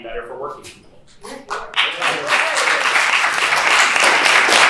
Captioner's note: applause